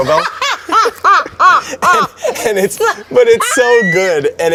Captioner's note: laughs